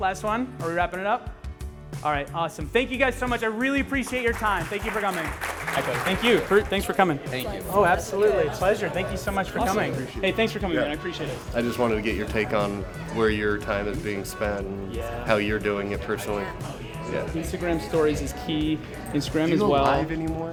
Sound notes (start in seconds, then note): 5.5 audience applauds